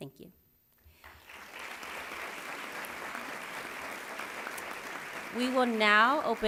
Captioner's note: applause